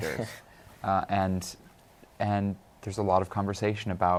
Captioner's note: chuckles